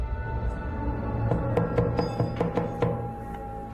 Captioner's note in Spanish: Toques en la puerta